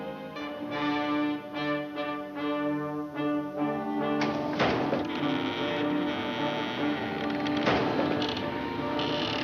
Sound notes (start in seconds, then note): 4.1 doors creaking; 4.6 thumping; 7.5 whirring